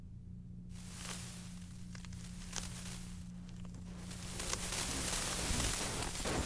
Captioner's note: static